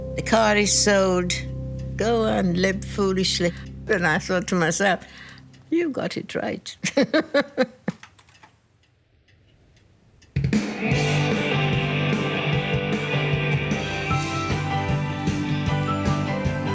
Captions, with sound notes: the car is sold, go and live foolishly." And I thought to myself, you've got it right. (laughs) (rock music playing on stereo)